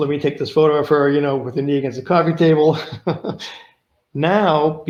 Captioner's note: laughs